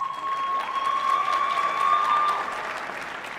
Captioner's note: applause